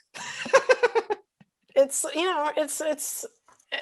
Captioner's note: laughs